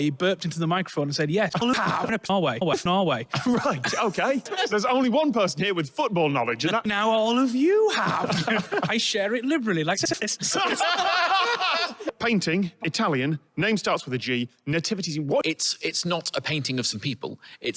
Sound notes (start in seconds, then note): 10.1 everyone laughs